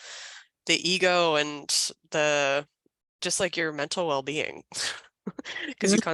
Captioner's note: chuckles